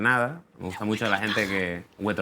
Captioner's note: whispers